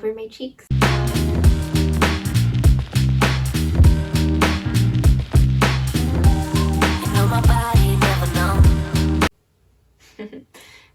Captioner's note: giggles